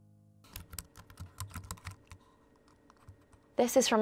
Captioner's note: keypad clicking